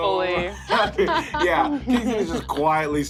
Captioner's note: all laugh